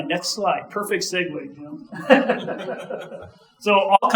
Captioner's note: laughing; audience laughing